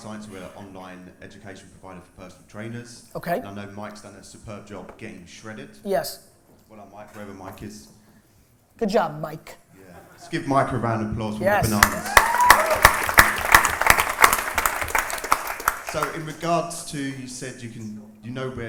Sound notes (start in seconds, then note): 11.6 applause